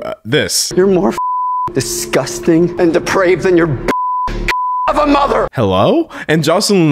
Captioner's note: beep